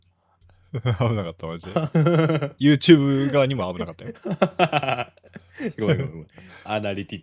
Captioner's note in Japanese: 笑い